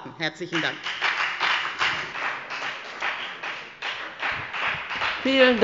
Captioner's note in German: Beifall bei der FDP